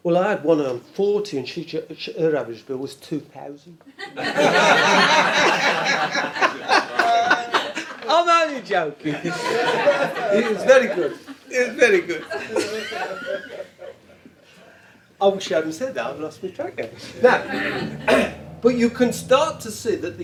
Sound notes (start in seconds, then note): 4.0 audience laughs